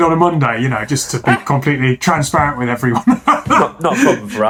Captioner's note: laughing